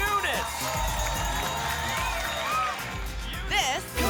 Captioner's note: applause and cheering cont